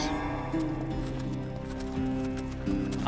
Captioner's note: hoofbeats